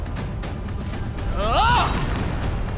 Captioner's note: grunting